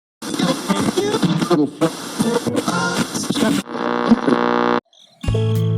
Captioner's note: Static